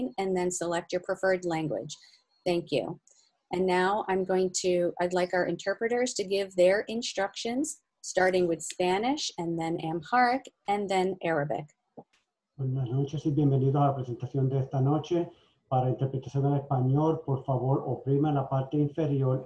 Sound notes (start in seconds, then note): 12.7 speaks foreign language